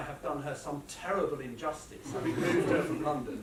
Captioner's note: laughter